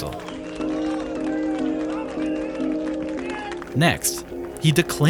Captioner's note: crowd cheering and applauding